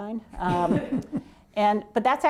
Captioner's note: laughter